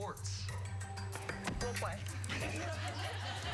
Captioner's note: laughter